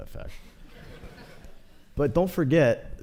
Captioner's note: laughter